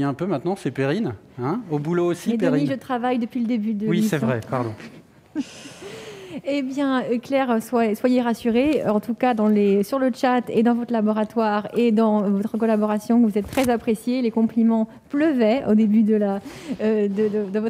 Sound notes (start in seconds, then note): 4.4 laughs